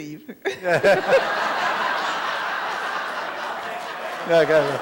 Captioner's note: laughter